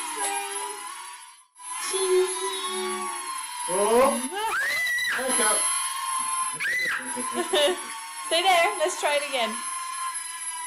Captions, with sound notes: Cheese! Wooooh! (scream!) Stay there, lets try it again